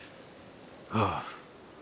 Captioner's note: sigh